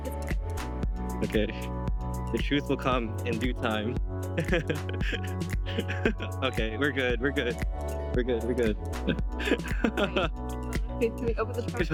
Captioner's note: laughs